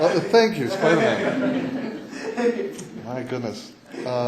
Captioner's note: laughter